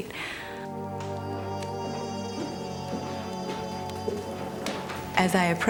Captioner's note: fire crackling